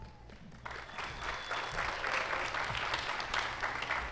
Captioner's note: applause